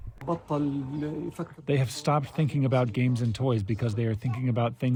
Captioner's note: through translator